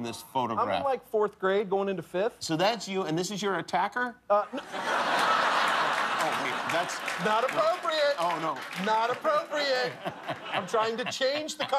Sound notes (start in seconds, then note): 4.4 laughter